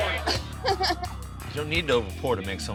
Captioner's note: laughs